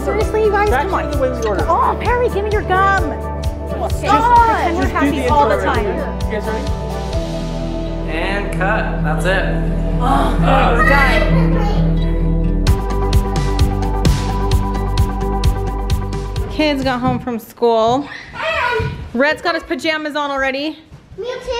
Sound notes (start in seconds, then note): 10.3 mom sighs; 12.9 cheerful music